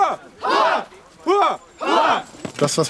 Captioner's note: battle cries